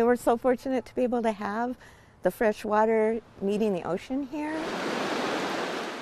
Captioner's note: waves crashing